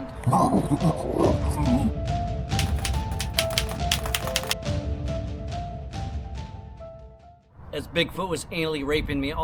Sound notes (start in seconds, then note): 1.3 dramatic music; 2.5 keyboard keys clicking